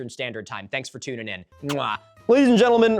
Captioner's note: smooch